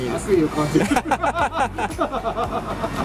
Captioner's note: laughs